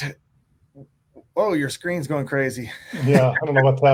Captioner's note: laughs